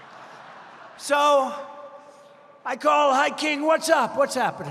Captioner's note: laughter